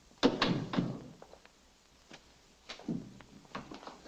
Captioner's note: door thuds shut